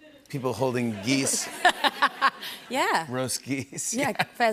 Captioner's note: laughs